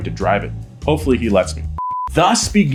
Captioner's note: beep